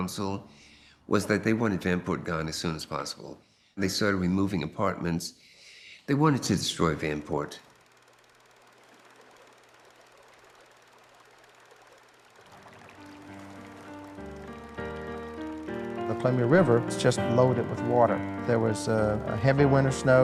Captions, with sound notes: political establishment, specifically Mayor Reilly and the council, was that they wanted Vanport gone as soon as possible, and they started removing apartments. They wanted to destroy Vanport. (water flowing) (film reel rolling) (melancholy music)